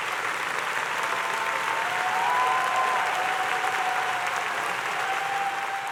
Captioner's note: audience cheering and applauding